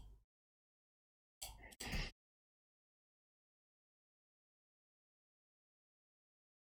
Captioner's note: blank Audio